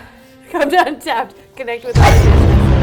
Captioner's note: sneezes